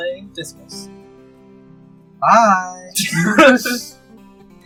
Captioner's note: laughter